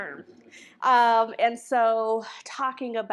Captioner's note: audience chuckles